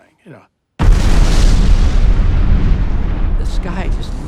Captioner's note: booming explosion